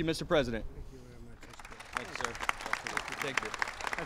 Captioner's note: applause